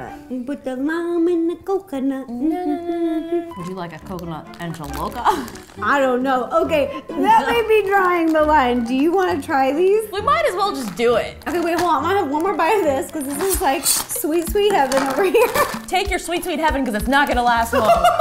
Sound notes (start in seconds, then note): 5.2 laughs; 17.7 laughing